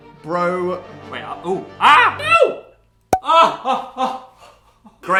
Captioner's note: pop